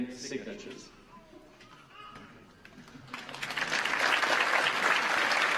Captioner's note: applause